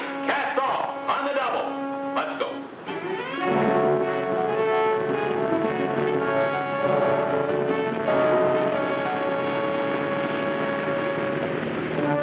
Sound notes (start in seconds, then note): 2.9 dramatic music; 3.3 boat hums